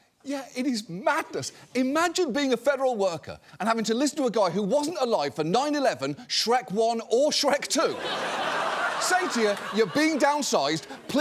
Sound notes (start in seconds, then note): 7.9 audience laughing